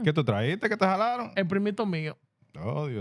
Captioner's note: speaking Spanish